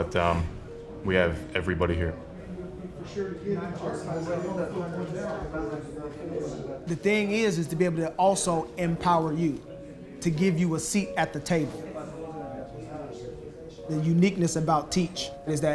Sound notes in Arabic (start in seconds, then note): 2.4 الناس يتحادثون